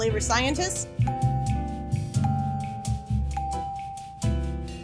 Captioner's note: bell dings